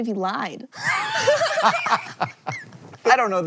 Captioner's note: BOTH laugh